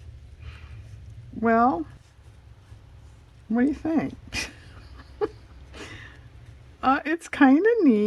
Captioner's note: laughs